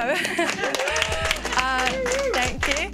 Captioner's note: people clapping